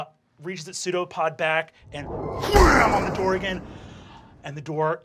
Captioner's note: crashes